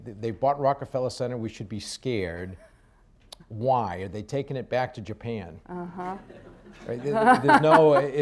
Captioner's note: laughter